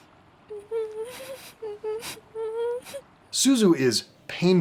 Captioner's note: Suzu whimpering and crying